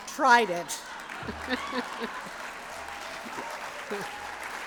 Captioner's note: applause